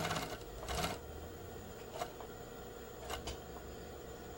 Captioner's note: sewing machine